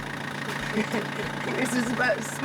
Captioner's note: laughs